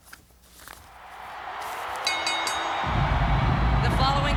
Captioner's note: crowd cheering; bell rings